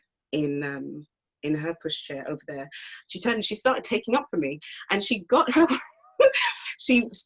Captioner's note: laughs